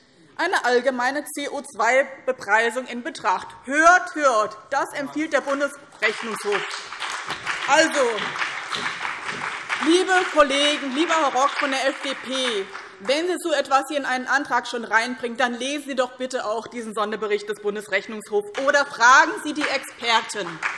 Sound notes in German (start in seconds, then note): 5.9 Beifall BÜNDNIS 90/DIE GRÜNEN und CDU